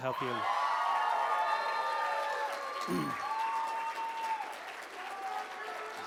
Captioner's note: cheers and applause